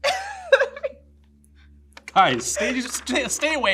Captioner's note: laughs